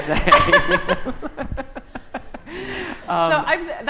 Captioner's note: laughter